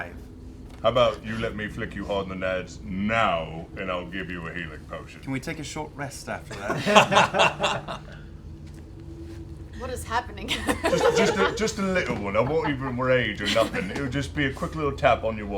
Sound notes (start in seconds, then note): 6.4 laughter; 10.4 laughs